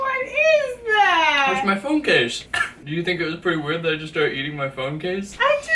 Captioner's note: cough